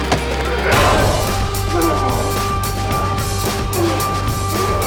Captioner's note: intense rock music; head clanks; Esteban growling